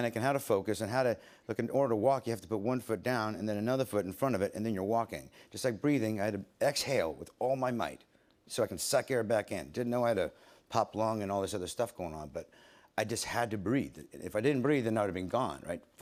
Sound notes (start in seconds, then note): none